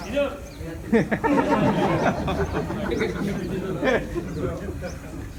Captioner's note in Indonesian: Jama'ah tertawa